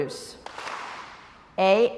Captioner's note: crowd applauds